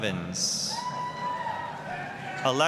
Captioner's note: applause, cheering